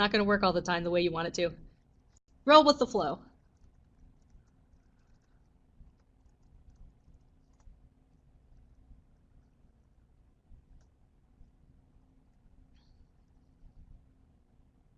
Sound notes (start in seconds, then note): 3.2 no sound - waiting for questions